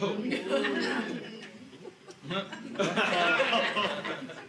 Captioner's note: audience laughing